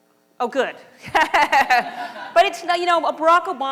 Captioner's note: laughter